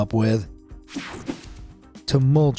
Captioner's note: swishing